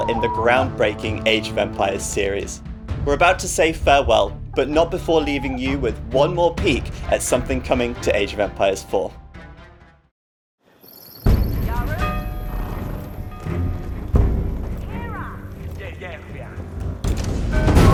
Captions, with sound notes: in the groundbreaking Age of Empires series. We're about to say farewell, but not before leaving you with one more peek at something coming to Age of Empires IV. [HORSE SNORTING] [TOWNSPEOPLE CHATTERING]